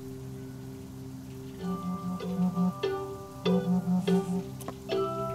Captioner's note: phone rings